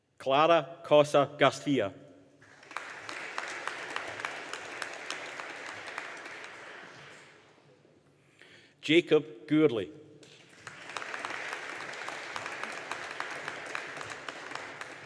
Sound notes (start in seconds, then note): 2.4 audience applauding; 10.3 audience applauding